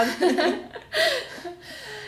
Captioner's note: laughs